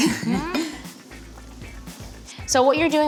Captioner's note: laughs